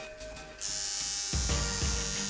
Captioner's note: needle buzzing